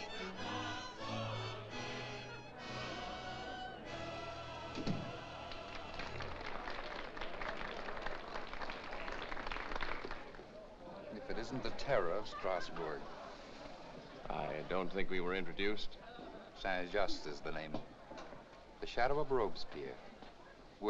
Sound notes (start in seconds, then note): 0.0 music & jovial singing; 4.6 door closes; 5.9 crowd applauds